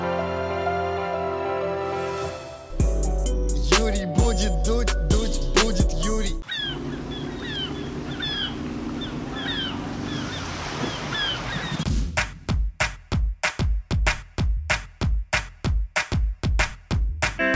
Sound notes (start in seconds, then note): 5.9 engine sounds and seagull cries; 12.0 upbeat music playing